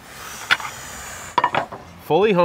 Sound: inhaling loudly

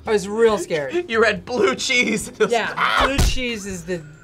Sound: screams

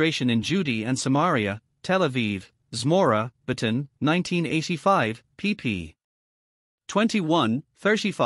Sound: Hebrew

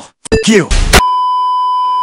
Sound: bang

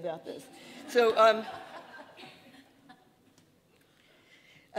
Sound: audience laughing

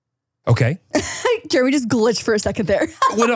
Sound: laughs

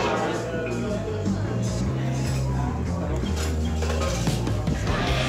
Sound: cafe patrons chattering

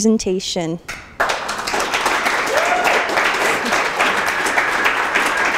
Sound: applause

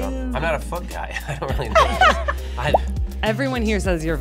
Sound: laughing

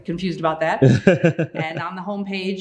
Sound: laughing

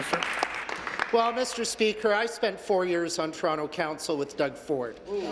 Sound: applause

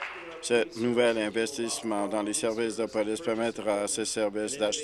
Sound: applause

